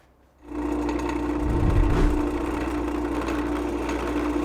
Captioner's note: air whooshes